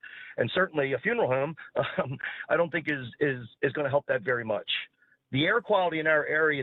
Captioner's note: laugh